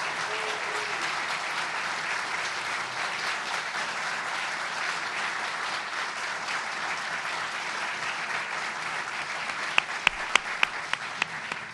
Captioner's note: applause